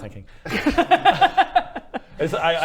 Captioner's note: confused laughter